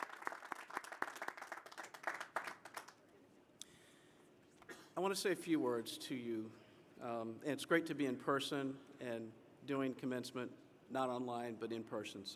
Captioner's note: applause